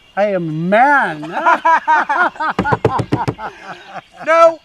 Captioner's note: laughter